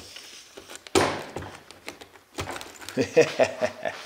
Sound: loud banging; laughs

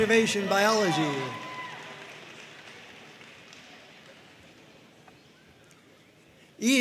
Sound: audience cheering and applauding

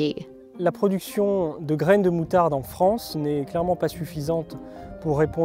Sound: speaking in foreign language

